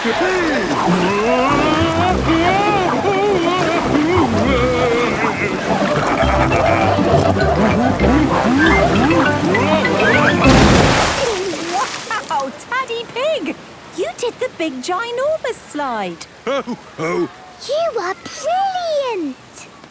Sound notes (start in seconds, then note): 2.2 Daddy Pig shouting; 5.8 laughing, snorting